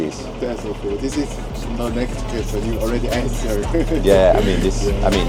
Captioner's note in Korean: 웃음